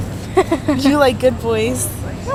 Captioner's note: laugh